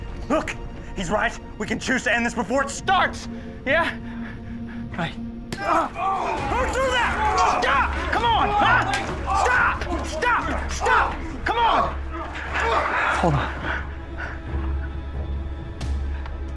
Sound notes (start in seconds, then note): 6.2 rock thuds; 12.7 tense music